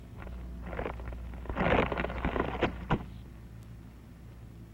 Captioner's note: wood crumbling